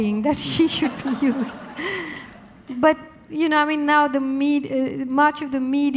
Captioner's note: audience laughing